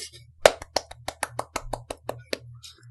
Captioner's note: hands clapping